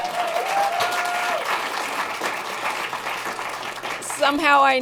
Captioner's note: applause